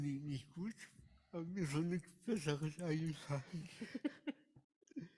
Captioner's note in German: beide lachen